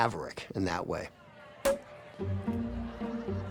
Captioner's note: cork pops